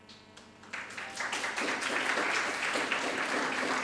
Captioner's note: audience applauding